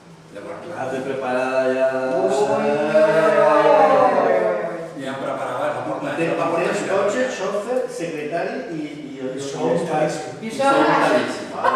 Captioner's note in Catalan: cridòria